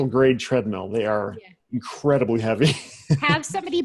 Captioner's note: laughs